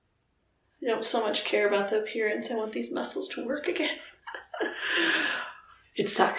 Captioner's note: chuckle